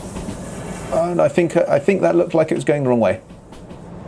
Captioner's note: musing